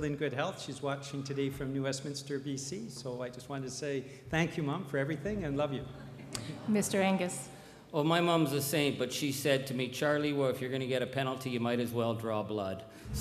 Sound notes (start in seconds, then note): 7.5 crowd chuckles